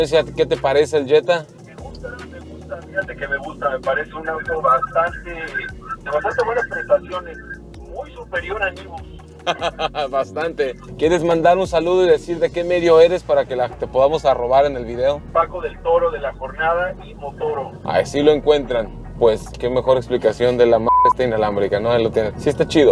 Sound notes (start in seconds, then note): 1.5 over the phone; 9.4 laughter; 15.3 over the phone